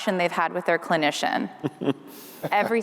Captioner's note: laughter